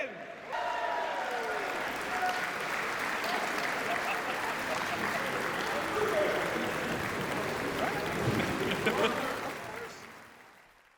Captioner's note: cheering and applause